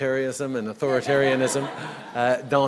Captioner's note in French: Rires